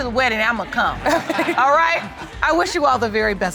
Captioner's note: chuckling